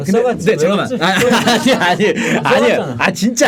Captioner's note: Sarcastic